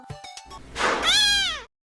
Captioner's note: door slam followed by a kitten meow